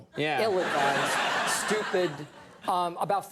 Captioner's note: audience laugh